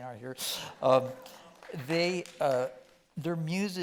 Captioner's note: scattered clapping from audience